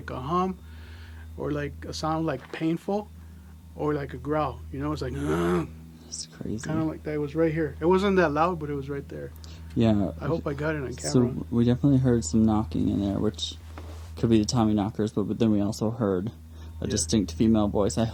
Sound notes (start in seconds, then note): 5.0 groans